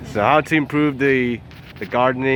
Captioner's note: none